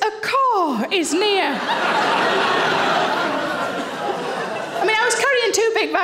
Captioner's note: audience laughing